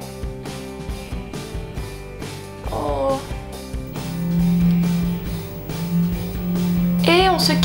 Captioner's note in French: Bruits de vibration